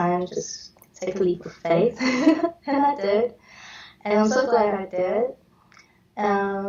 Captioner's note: chuckles